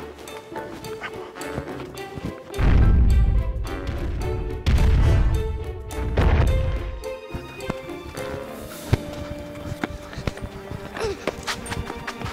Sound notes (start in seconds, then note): 0.2 playful suspense music; 2.6 dinosaur stomps